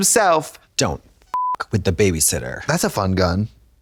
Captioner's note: beep